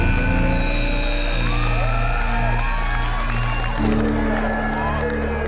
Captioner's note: buzzer; cheering